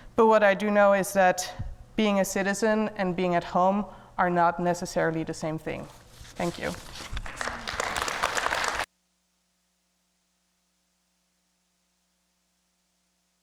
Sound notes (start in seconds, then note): 7.2 audience applauding